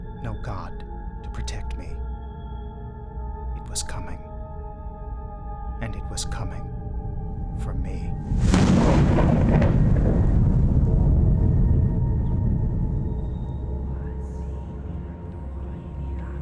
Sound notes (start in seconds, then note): 8.2 thunder crashes; 8.6 suspenseful music